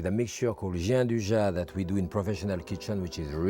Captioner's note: speaks in foreign language